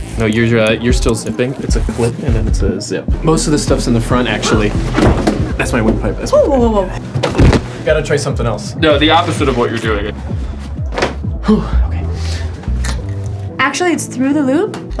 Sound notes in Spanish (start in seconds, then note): 7.1 thumping; 11.3 sighs